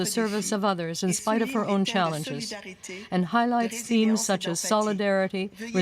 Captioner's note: french